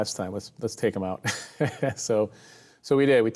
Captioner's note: chuckles